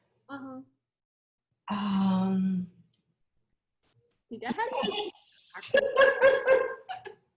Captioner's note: laughs